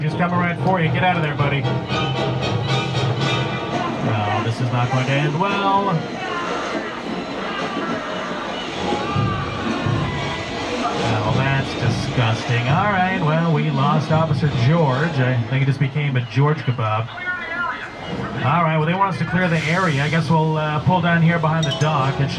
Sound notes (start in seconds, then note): 2.5 tense dramatic music; 6.5 screaming